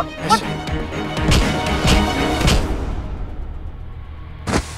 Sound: thump; thud

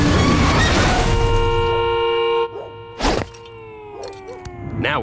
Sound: honking

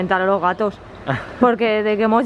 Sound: laughter

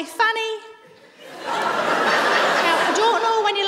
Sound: laughter

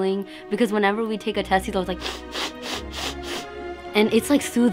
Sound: sniffle sniffle

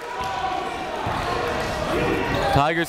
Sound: chatter

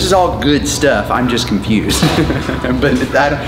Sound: laughs

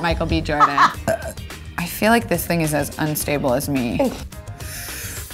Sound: burps

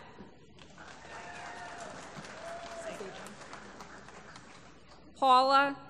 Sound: applause

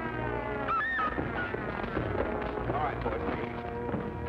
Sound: scream

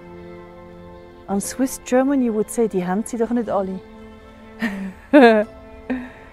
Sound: laughing

